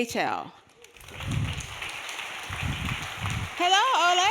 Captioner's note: audience clapping